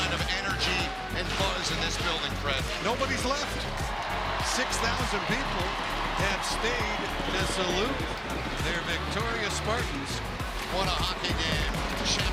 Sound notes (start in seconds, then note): 6.4 crowd cheering